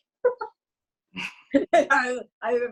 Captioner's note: laughter